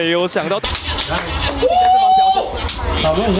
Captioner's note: cheers